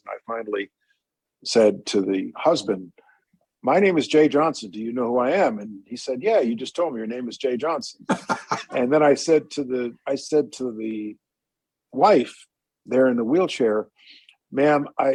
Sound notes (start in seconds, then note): 8.0 laughter